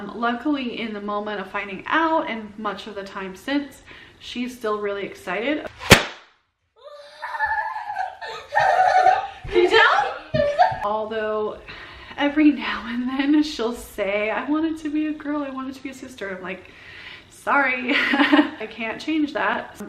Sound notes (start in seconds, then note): 5.8 pop sound; 7.2 laughing excitedly; 17.8 laughs